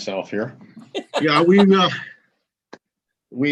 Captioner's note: laughing